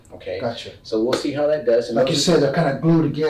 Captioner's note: none